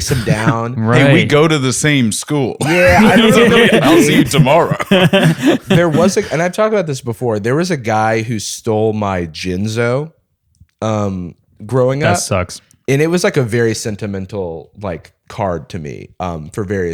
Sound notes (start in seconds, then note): 2.6 laughter